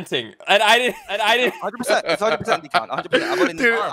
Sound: laughs

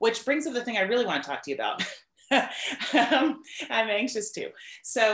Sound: laughs

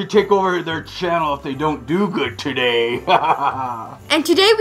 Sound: laughs

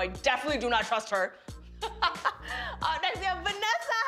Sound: laughs

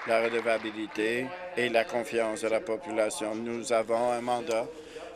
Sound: applause

